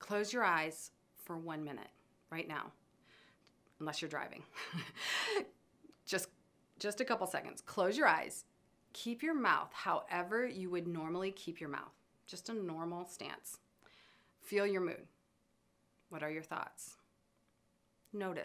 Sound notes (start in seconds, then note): 4.6 chuckles